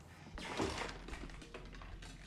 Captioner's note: clattering